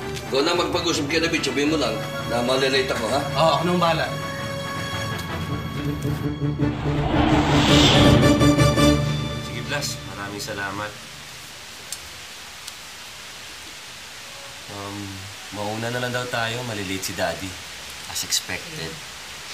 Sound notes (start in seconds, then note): 0.0 anthemic music playing; 6.6 whooshes